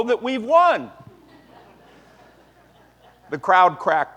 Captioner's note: laughter